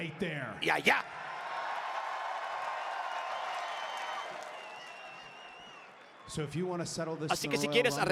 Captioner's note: applause